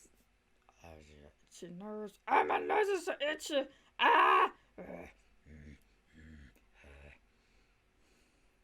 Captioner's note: goblin noises